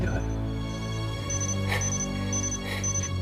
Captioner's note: alarm beeps